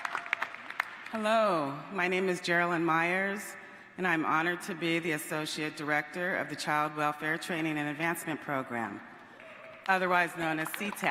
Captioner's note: cheers and applause